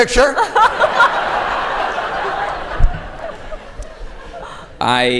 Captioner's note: laughter